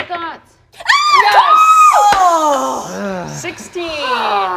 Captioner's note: players cheering